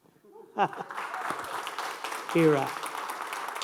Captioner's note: audience applauding